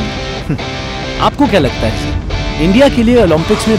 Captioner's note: Man 1 on radio